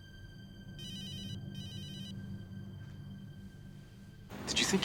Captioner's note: phone ringing